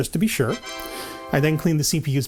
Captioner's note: Windows 95 "Tada" sound